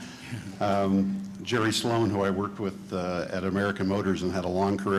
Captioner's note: chuckling